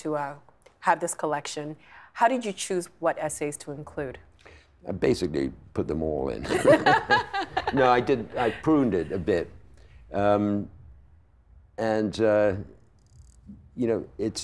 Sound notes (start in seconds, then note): 6.5 laughing